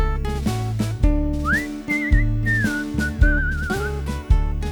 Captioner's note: whistle